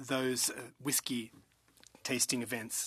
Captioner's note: speaking in French